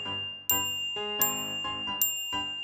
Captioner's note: ting!